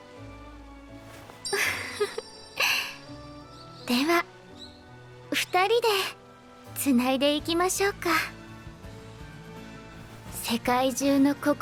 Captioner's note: laughs